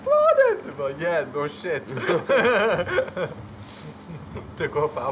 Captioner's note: laughs